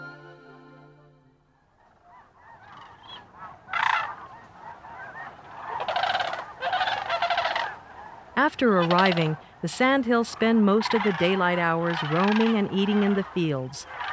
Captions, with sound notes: (birds squawking) After arriving, the sandhills spend most of the daylight hours roaming and eating in the fields.